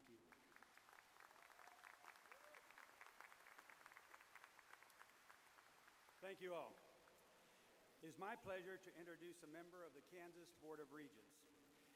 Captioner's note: applause